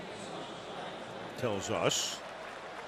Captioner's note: pa announcement